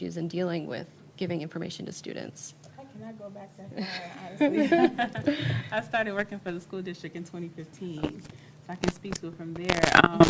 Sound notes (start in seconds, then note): 5.6 panel laughs